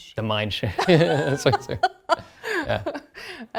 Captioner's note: laughter